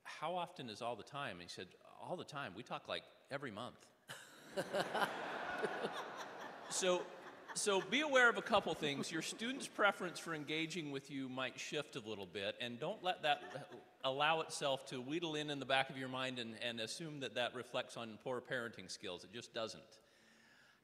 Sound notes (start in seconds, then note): 6.8 audience laughing